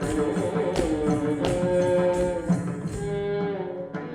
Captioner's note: ankle bells ringing; traditional South India music